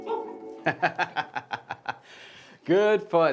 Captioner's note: laughing